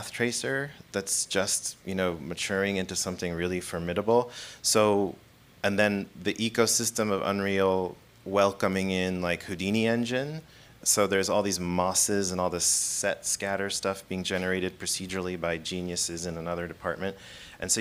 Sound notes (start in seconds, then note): none